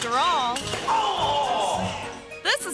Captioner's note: pogo stick thuds; groans